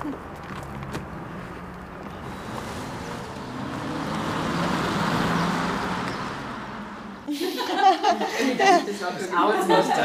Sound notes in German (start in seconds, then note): 8.2 Stimmengewirr